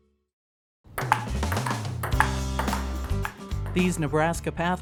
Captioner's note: ping pong ball bounces